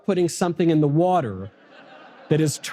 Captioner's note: audience laughter